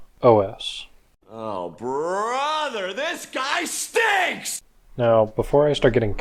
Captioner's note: SpongeBob meme sound effect